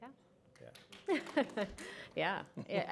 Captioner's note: applause